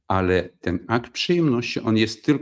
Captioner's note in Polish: none